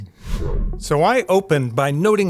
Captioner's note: screen swooshing